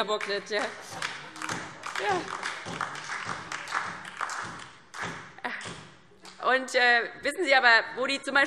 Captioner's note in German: Beifall DIE LINKE und vereinzelt SPD